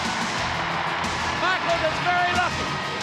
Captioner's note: audience cheering